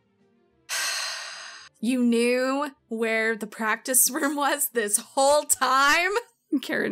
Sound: sighs

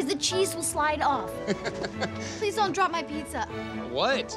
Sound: laughs

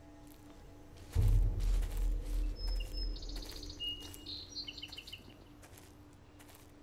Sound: dramatic music; birds chirping

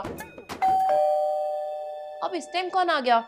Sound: doorbell rings

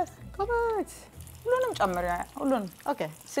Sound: speaking Amharic

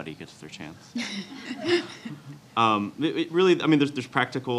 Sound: audience laughs

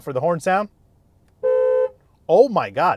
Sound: honking

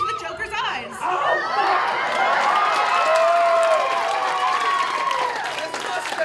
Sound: applause

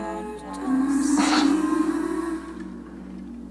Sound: gasps; creepy sing-songy vocalizing

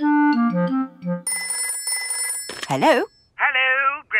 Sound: telephone ringing

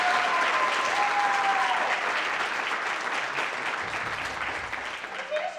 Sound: audience applauds

